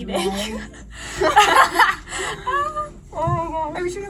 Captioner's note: laughing